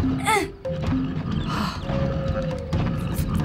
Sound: grunts; sighs in relief

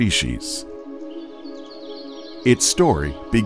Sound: birds chirping

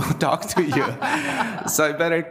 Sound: people laughing

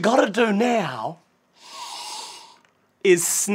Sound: sniff

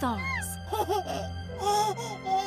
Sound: baby giggling

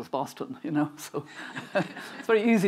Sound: chuckling

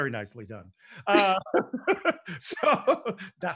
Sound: both laughing

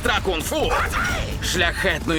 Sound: yells

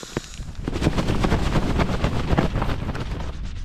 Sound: shakey shake

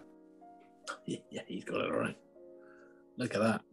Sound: whispers

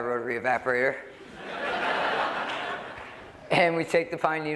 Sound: laughter

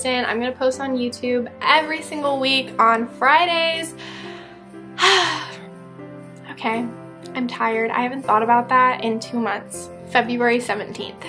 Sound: sigh

